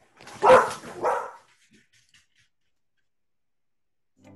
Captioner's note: dog barking